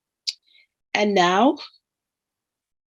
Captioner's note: speaking in foreign language